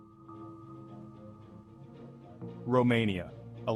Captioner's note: narrator over music